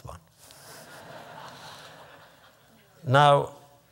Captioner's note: laughter